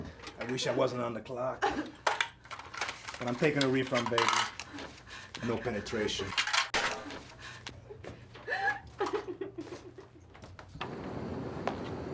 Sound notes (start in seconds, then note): 6.0 money clanking; 6.2 box clatters; 8.4 Nikki sobs